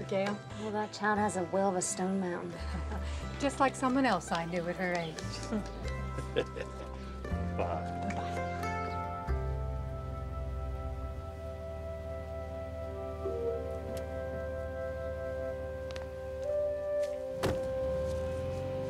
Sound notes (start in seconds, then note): 5.4 laughing; 9.0 soft instrumental music